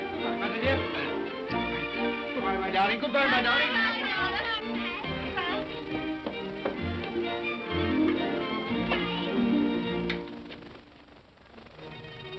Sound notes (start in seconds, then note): 3.0 children clamoring; 5.6 upbeat music; 11.7 ominous whimsical music